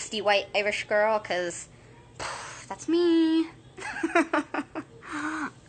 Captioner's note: chuckling